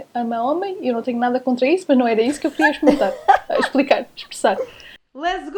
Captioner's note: laughs